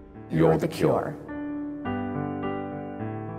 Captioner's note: voiceover